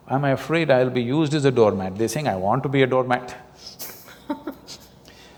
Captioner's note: laughs